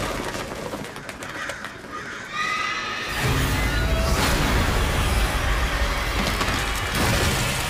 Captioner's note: loud bang